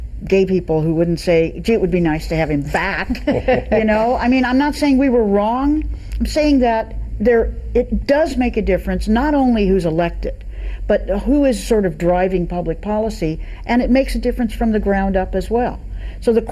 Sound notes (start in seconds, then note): 3.0 everyone laughing